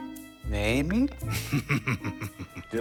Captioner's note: Chaos snickers